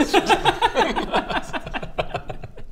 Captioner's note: heartless giggles